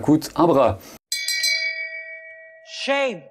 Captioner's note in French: ding